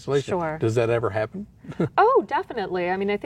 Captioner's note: chuckles